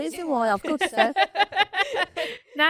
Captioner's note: laughing